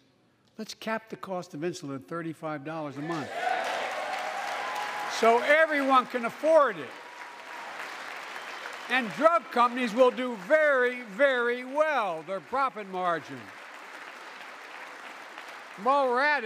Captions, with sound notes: let's cap the cost of insulin at $35 a month (applause) so everyone can afford it. And drug companies will do very well, their profit margin. (Applause.) And while we're at,